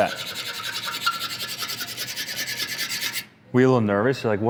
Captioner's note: metal scratching